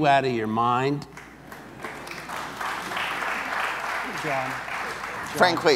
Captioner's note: audience applauds